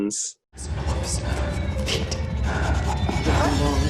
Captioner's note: woman whispering